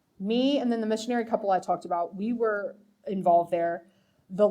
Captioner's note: none